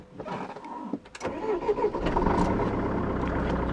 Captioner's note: engine starts